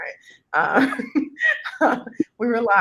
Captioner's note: chuckles